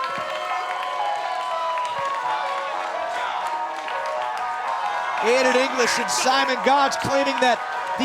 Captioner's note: cheers and applause